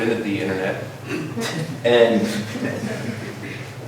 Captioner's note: laughter